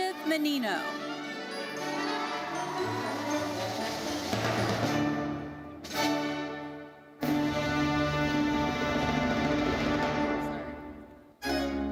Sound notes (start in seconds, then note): 1.5 audience cheering; 4.3 gentle uplifting music continues; 8.4 gentle uplifting music fades; 11.7 lively uplifting music